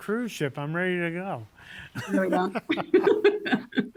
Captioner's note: laughs